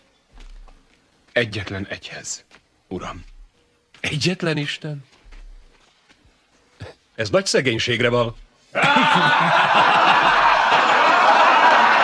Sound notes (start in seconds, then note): 8.7 crowd laughs